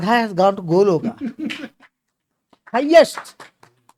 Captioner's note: claps